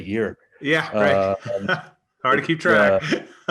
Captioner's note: chuckles